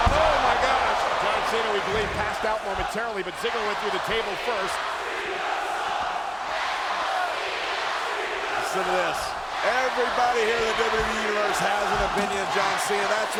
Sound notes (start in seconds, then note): 5.3 audience chanting